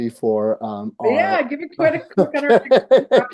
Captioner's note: laughing